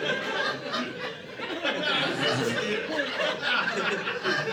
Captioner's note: audience laughing